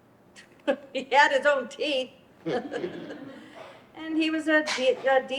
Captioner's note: chuckles